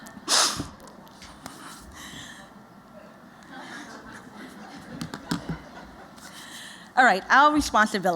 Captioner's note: laughter